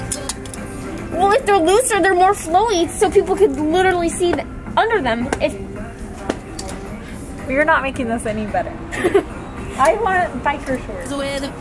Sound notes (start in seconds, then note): 8.9 giggling